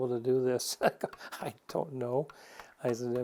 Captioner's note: chuckling